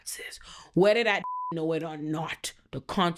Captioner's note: beep